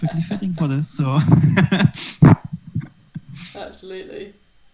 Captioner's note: laughs